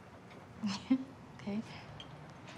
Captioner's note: laughs